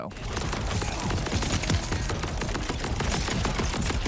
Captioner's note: guns firing